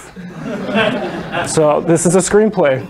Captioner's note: laughter